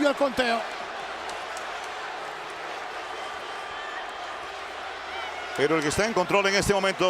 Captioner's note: applause